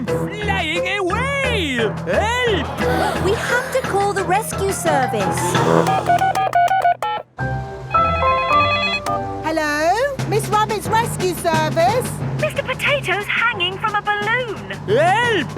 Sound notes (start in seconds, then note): 5.6 beeping; 8.2 phone ringing